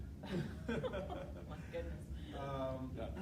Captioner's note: laughing